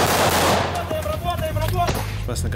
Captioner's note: gunshots; shouts